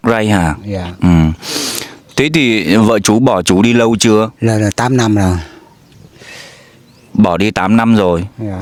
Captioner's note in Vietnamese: khịt mũi